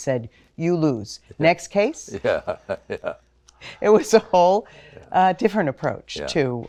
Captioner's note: laugh